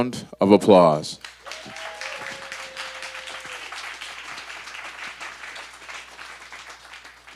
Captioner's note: audience applause